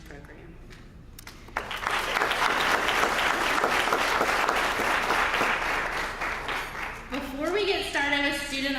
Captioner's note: applause